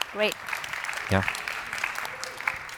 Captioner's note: applause